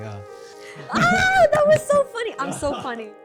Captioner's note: playful scream